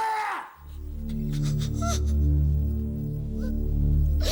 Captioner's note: whimpering